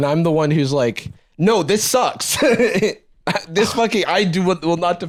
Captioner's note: laughs